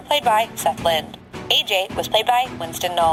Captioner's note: none